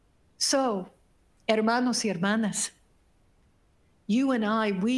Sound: speaking foreign language

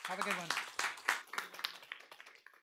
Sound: applause

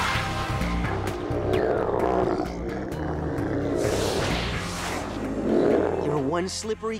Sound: grunting; growling

